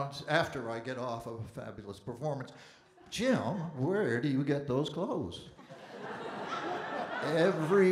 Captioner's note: audience Laughing